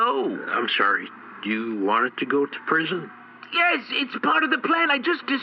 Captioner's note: exasperated